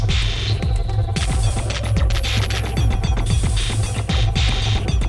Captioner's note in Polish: Częste, metaliczne uderzenia